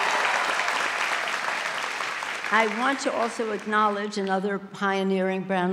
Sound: applause

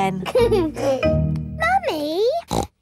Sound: giggles; snorts

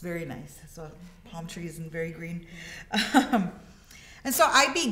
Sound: laughs

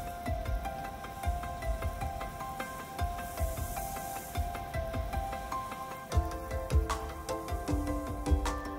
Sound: inspirational music begins; sprinkler spraying

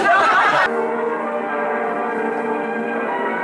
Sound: audience laughs; dramatic music

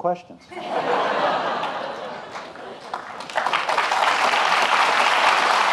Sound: audience laughing; applauding

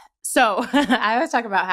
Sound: laughter

